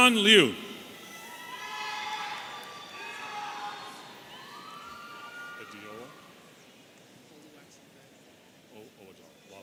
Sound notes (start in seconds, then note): 0.0 audience cheering